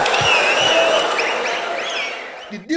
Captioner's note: wild applause and cheering for 22 seconds